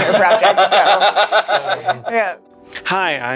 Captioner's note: laughing